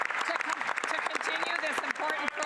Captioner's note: some Applause